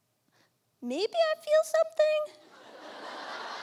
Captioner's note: high voice